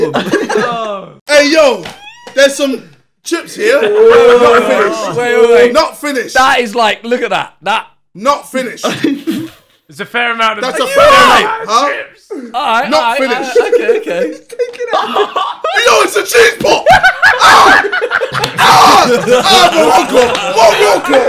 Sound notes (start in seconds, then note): 4.6 indistinct chatter and laughing